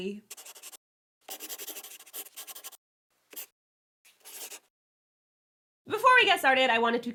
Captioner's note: the sound of a pen scratching